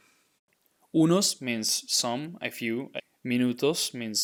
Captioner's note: speaking in Spanish